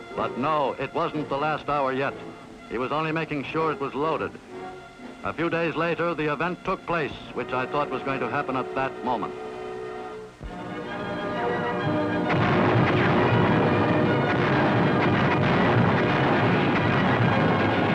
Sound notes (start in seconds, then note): 10.5 rousing dramatic music; 12.1 artillery blasting